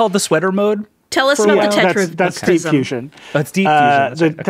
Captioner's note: speaking faintly